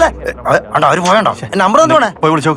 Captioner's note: indistinct chatters